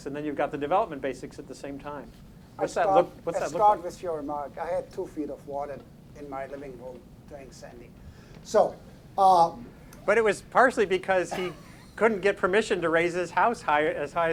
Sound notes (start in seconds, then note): 11.2 laughing